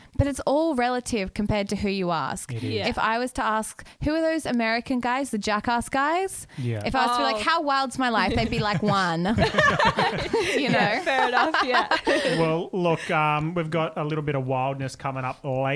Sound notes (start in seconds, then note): 8.2 laughing together